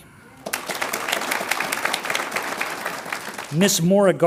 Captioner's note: audience applauds